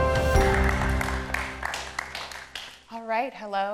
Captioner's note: audience applauding